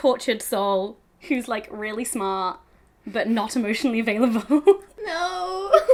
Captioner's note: laughs